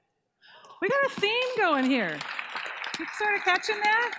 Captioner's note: applause